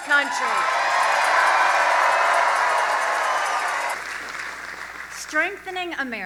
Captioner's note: audience applause